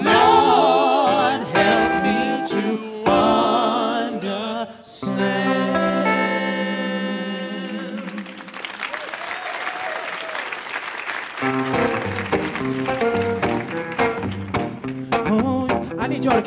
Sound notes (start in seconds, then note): 7.8 audience applauds; 11.6 punchy upbeat music